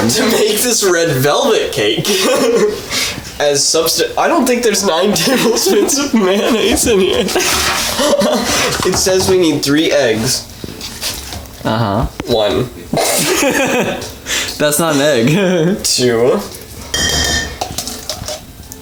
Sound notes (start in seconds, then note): 4.4 laughs; 4.8 both laughing; 11.0 gloopy noises; 13.0 both instantly crack up; 15.7 laughing; 16.9 spoon clanks